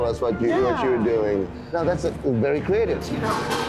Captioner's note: metal clanging